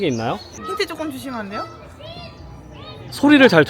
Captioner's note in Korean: 곳곳에서 코 고는 소리가 들리는데